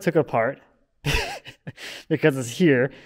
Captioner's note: chuckling